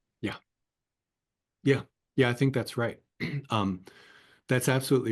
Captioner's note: cough